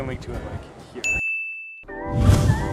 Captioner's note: bell ding